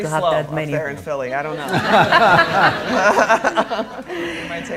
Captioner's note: all laughing